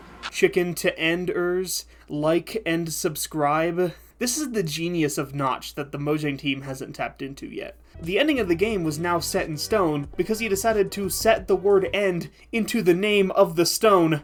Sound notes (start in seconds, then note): none